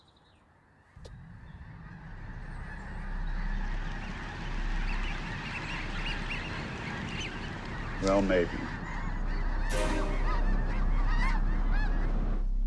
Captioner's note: birds squawking